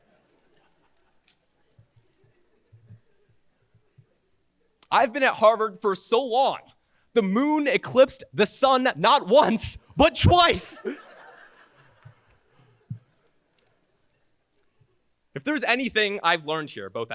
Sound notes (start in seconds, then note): 10.6 laughter